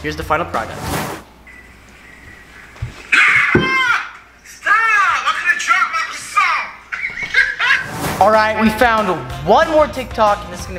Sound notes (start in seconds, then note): 3.1 screaming; 4.2 male Voice; 6.8 laughing